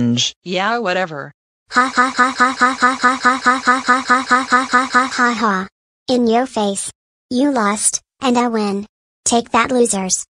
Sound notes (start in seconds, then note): 1.5 laughing